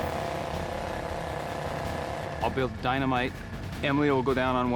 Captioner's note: drilling